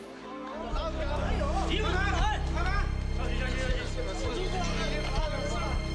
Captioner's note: tourists yelling in foreign language